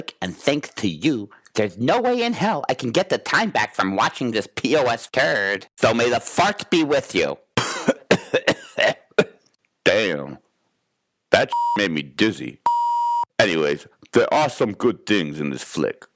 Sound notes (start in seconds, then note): 7.6 Boogy coughs; 12.6 beep